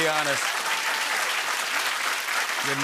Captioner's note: cheering